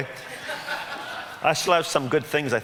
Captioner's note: audience laughs